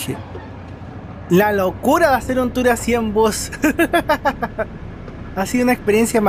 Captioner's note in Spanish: risas